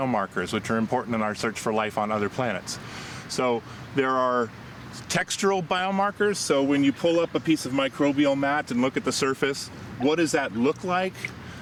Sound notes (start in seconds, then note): none